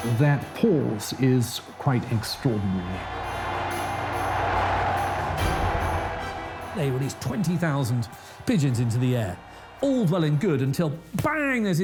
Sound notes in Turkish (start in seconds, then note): 3.2 kalabalık tezahürat